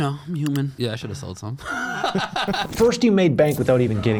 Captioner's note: laughing